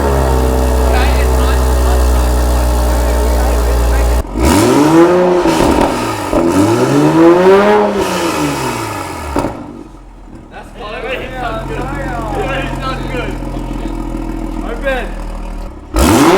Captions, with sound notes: (engine revving) That's closed? It already sound good. Open.